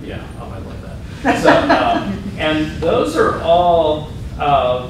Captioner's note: laughter